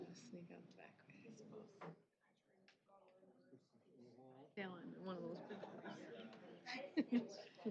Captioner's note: background chatter